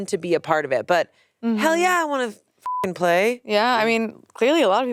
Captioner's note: beep